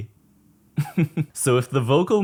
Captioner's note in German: lacht